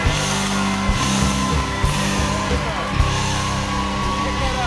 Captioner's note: cheers and applause